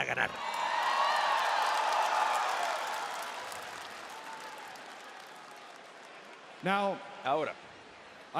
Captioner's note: applause